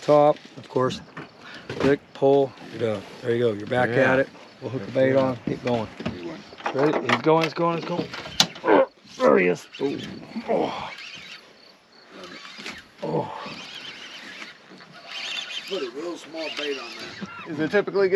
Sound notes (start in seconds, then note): 6.6 clattering; 12.1 reel cranking